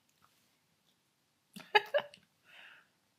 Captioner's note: laughing